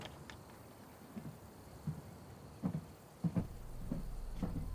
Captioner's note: footsteps receding; intriguing music